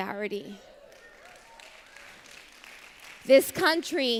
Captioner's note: applause